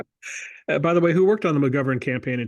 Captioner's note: laugh